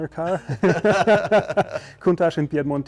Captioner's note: both laugh